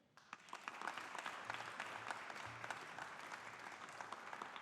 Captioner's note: audience applauding